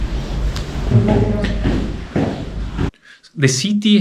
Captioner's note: footsteps